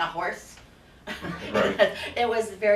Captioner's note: laughing